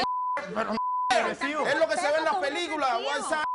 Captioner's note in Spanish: Bip; Bip